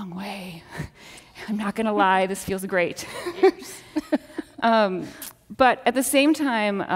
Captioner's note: laughs